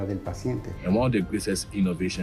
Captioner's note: speaks in Spanish